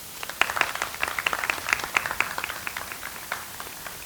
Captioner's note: audience applauds